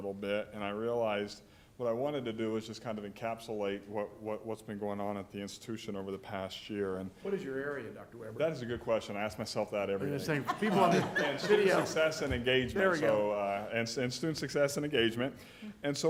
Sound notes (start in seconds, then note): 10.1 laughter